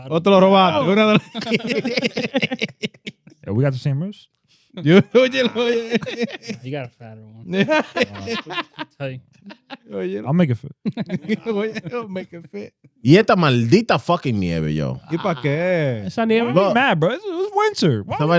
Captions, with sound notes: (Speaking In Foreign Language) (Laughing) We got the same moves? (Speaking In Foreign Language) You got a fatter one. (Laughing) I'll make it fit. (Laughing) (Speaking In Foreign Language) Why he mad, bro? It was winter.